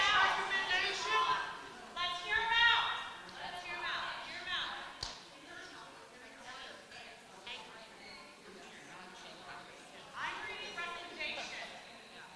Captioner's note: shouting